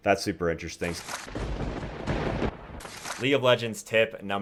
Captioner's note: thunder crackles